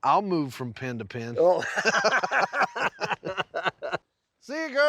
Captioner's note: both laughing